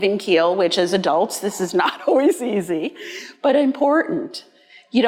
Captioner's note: laughing